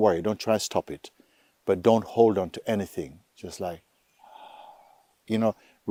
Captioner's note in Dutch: ademt uit